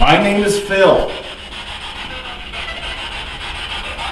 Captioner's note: static buzzing